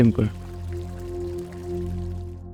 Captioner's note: water pouring in the background